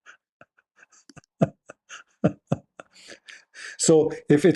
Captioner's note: Ketawa